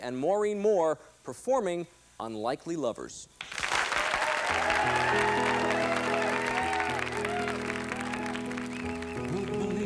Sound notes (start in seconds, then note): 3.4 applause